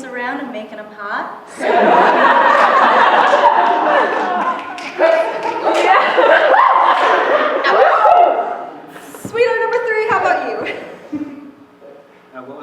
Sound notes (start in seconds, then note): 1.5 laughter; 1.6 cheers; 2.7 snapping